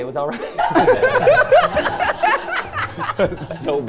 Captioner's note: everyone laughing